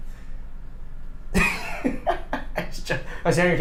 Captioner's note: laughing